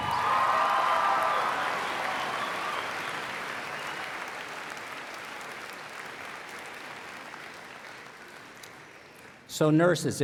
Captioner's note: applause